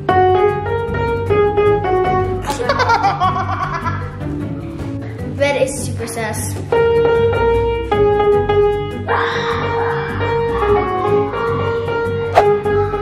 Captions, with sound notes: (playing piano) (laughs) - Red is super sus. (plays piano) (screaming in the background)